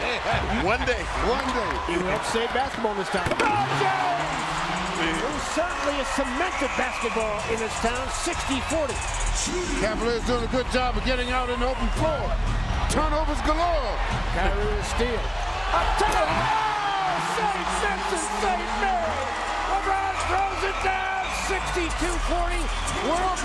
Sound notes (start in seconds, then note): 7.1 cheers and applause; 19.6 cheers and applause